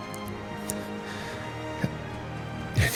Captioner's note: deep breath